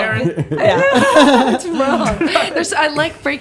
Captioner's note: all laughing